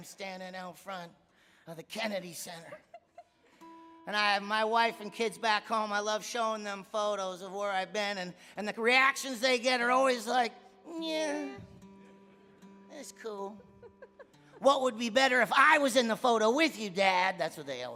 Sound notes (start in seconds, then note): 13.6 laughing; 13.6 audience laughing